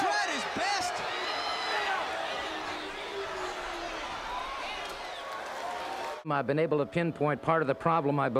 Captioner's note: crowd chatter